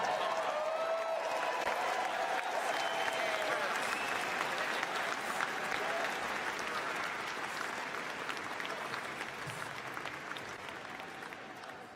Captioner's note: cheers and applause